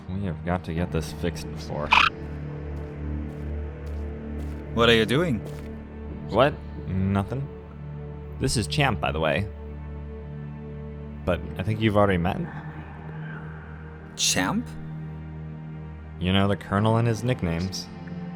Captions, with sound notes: We've got to get this fixed before— [Bahro exclamation] What are you doing? What? Nothing. This is Champ by the way. But I think you've already met? Champ? You know the colonel and his nicknames.